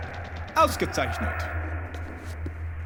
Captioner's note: chanting; speaking german